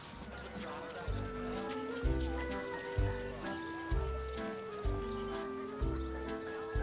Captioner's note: people chattering; soft jaunty music